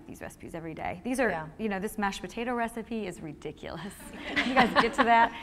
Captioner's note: laughter